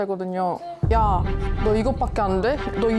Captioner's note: thud sound effect